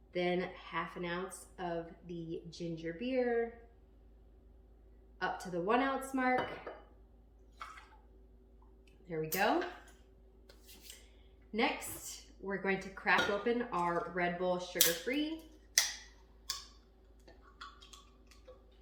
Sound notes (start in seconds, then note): 15.8 can cracking